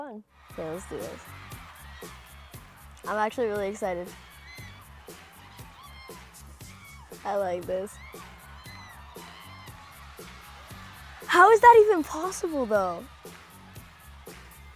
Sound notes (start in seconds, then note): 7.7 crowd cheering